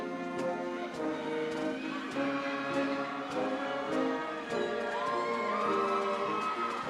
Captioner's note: upbeat ceremonial music continues; upbeat ceremonial music; audience cheering